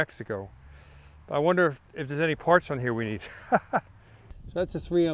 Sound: laughs

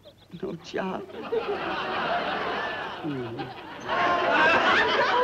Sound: audience laughs

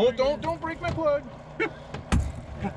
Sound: thunk

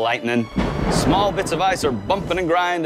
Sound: thunder crashes

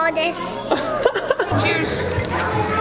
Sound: laughing

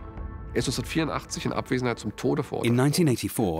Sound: speaking German

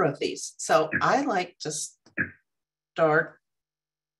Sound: computer chirping

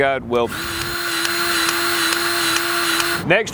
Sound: grease gun revving

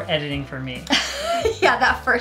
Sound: laughs

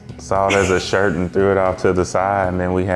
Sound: laughing

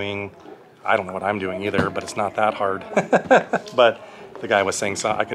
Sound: laughs

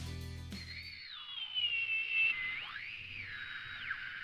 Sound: whirring noise

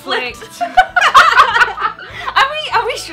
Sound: both laughing

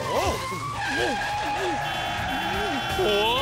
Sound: tires screeching; horns honking

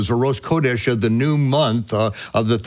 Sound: speaks in foreign language

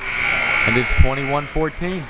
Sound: buzzer

